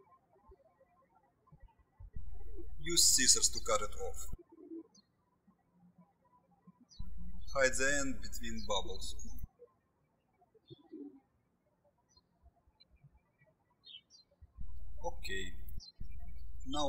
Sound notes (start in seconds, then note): 0.1 birds chirping; 5.3 birds chirping; 10.0 birds chirping